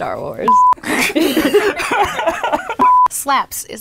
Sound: laughing

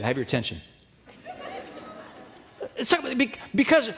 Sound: audience laughing

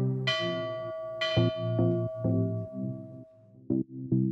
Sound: bell dinging

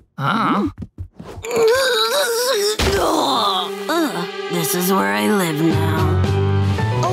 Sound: grunting

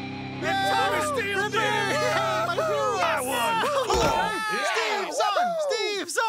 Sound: cheering

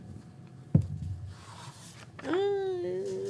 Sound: dice thudding

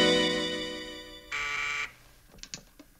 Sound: buzzer

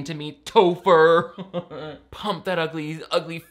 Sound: laughs

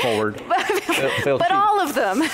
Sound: laughs

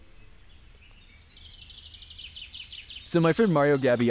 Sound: birds chirping

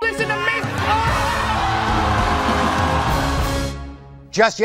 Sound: audience screaming

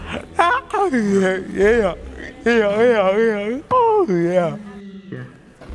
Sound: vocalising, happily

